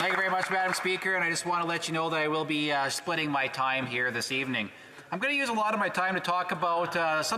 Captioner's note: applause